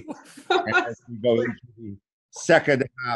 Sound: laughing

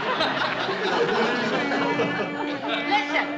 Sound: humming

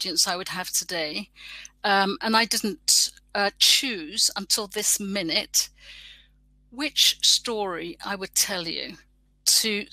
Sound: erm

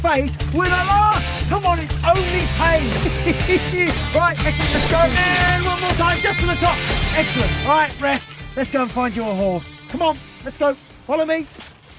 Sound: laughs

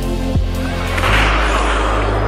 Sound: gunshot

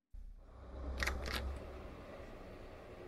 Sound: door open

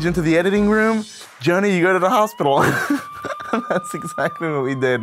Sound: laughs

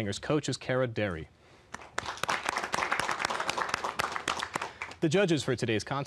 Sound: applause

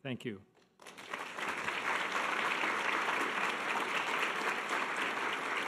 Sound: audience applause

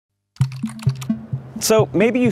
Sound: typing sounds

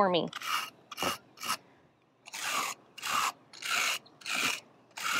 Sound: brush scratching

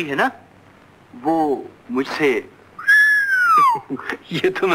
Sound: whistles

